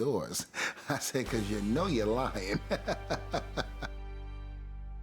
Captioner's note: laugh; laugh